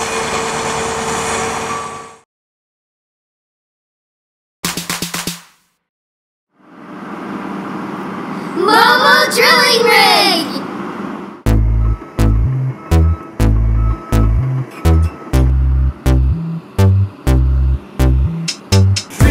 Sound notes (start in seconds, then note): 0.0 truck sounds; 4.2 clapping; 7.5 truck sounds